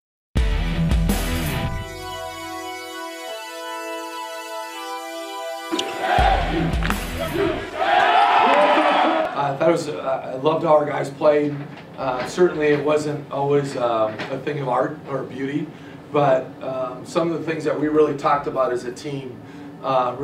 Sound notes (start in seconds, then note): 8.4 applause